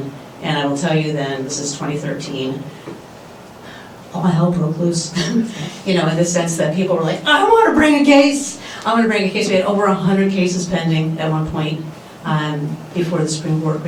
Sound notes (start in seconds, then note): 5.2 laughs